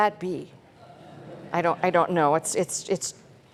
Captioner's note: laughter